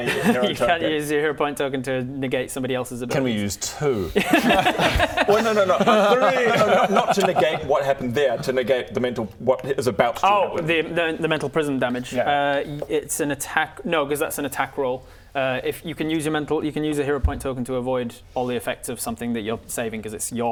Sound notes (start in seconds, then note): 4.1 perseverant laughter